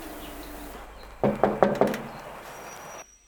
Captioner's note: knocking